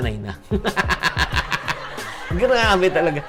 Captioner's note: laughs